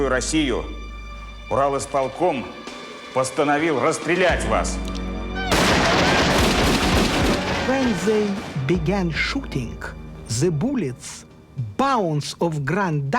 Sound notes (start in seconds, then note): 5.5 gunshots